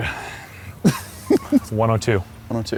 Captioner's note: laughs